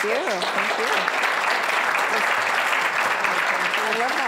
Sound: applause

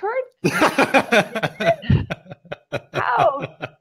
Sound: laughing

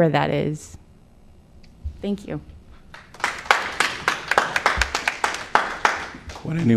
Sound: applause

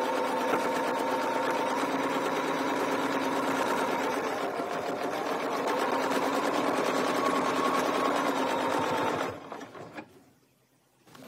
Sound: sewing machine whirring

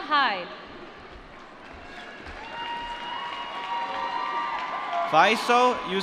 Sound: applause

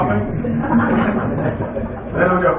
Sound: laughter

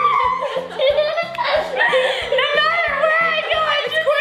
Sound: laughing

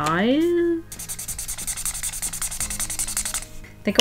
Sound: marker squeaking

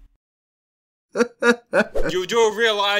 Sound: giggling

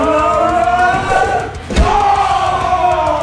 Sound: smacking; yelling

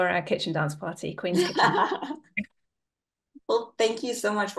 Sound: everybody laughing

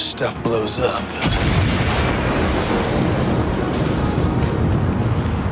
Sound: explosion booms

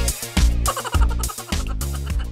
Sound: mouse laughing

